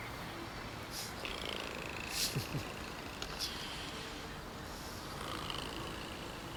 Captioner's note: Laura purrs; Chris chuckles; Laura purrs